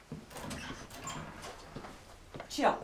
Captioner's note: door opens